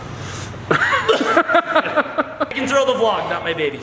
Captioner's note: laughs